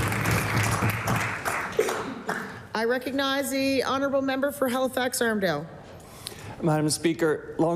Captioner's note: applause